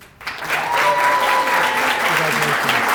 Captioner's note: applause